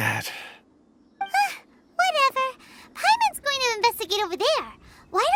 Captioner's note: sigh